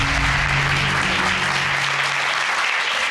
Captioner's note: crowd clapping